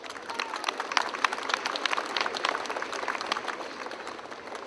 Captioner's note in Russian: аплодисменты